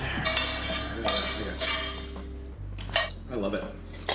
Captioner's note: ladle scraping